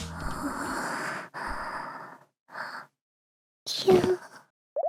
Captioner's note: thud